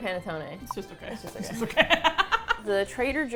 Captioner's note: laughs